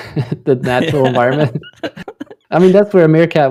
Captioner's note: laughter